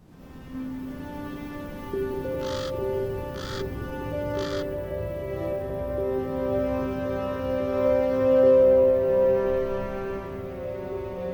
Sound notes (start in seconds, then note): 0.1 mysterious orchestral swell; 2.3 bird cawing